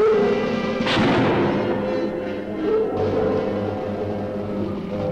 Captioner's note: gun firing